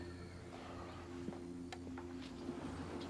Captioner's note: Ben sighs; door sliding